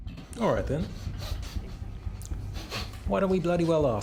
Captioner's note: breathing heavily